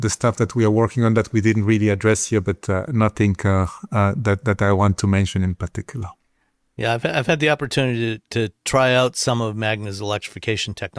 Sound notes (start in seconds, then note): none